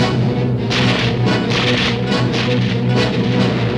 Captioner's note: gun shots